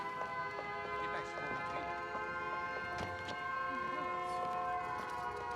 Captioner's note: air-raid siren